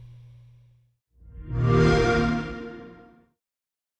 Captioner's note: xbox sound